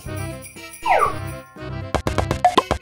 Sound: sliding whistle sound effect; various cartoon sound effects

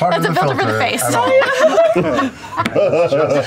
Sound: laughter

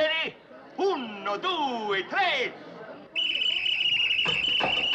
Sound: blows Whistle

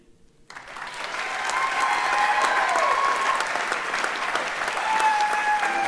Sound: audience cheers and applauds

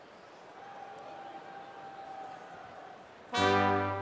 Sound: applause

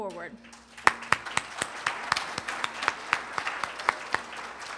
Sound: applause

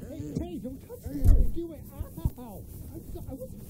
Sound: men groaning

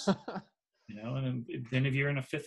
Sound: laughs

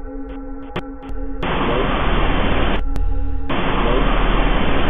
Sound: static hissing

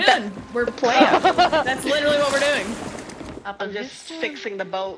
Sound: laugh

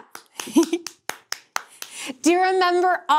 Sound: clapping; chuckling

